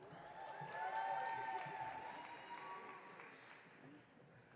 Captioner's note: audience cheering